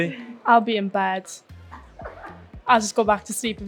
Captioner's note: laughs